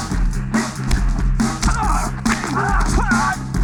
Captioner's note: yells